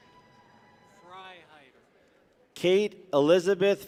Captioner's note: people cheer